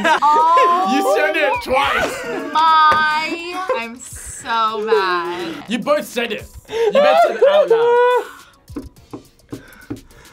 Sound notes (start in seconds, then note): 6.7 laughs